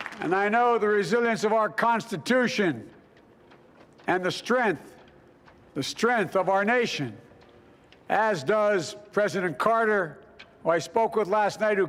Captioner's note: applause